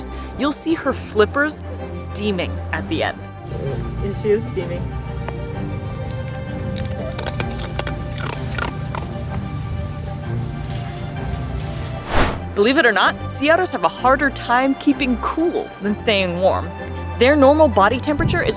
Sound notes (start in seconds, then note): 3.3 background music; 5.0 Kunik crunching ice cubes; 5.0 background music; 12.0 whooshing sound effect